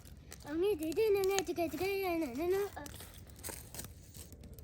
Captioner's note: chatters